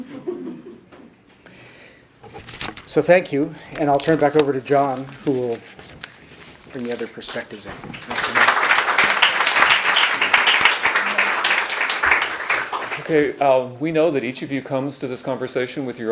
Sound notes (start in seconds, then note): 0.0 audience chuckles; 7.8 audience applauds